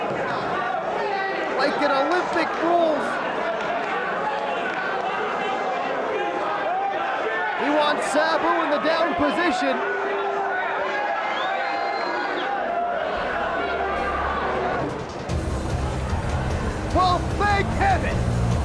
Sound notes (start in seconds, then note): 9.9 spectators cheering; 14.7 heavy rock music